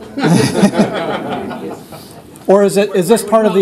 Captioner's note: laughter